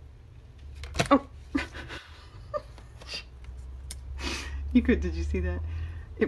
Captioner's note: laughs